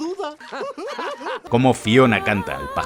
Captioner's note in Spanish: risas